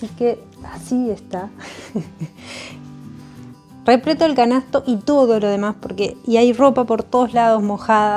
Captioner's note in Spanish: risas